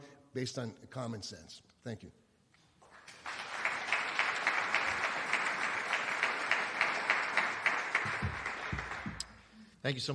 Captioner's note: applause